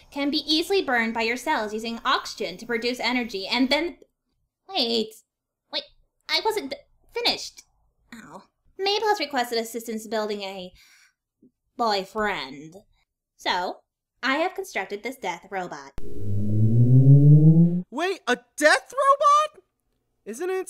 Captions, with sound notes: can be easily burned by your cells using oxygen to produce energy and then— Hey... Wait, I wasn’t f-finished... Mabel has requested assistance building a... "boy-friend"... so, I have constructed this death robot. [machine powering on] - Wait, a death robot?! - Wait, a - Wait, a death robot?!